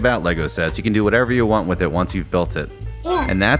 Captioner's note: Sonic Ring Chime